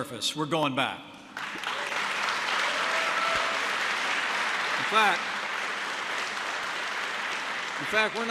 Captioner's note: applause